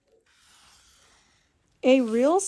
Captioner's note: marker drawing